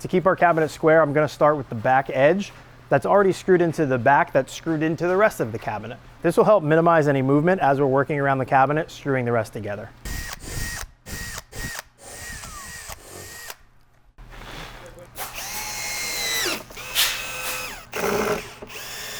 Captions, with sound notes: To keep our cabinet square, I'm gonna start with the back edge that's already screwed into the back that's screwed into the rest of the cabinet. This will help minimize any movement as we're working around the cabinet screwing the rest together. (drill whirring) (blowing)